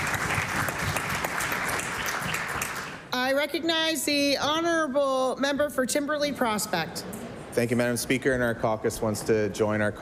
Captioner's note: applause